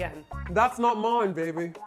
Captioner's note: Austin Powers impression